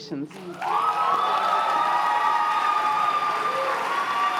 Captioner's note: cheers and applause